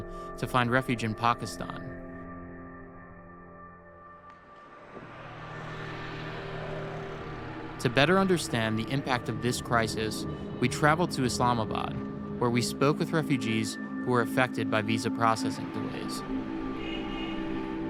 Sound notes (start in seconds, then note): 4.2 car driving; 16.6 car honking